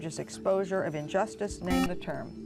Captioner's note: buzzer